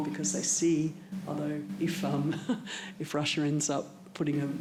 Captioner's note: chuckles